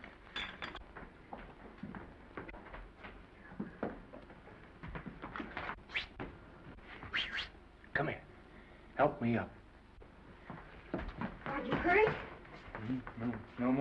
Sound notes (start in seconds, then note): 0.3 footsteps receding; 7.1 Norman whistling